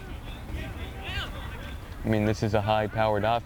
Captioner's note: players shouting